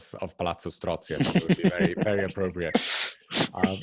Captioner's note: laughs